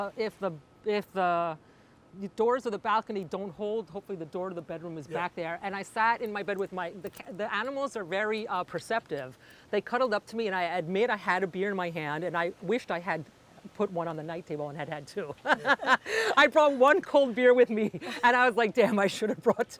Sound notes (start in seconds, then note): 15.4 laugh